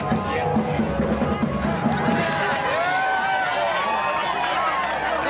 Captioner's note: cheers and applause